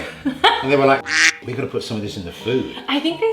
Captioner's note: laughing; beep